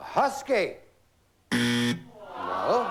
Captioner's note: buzzer